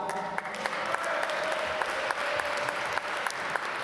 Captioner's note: applause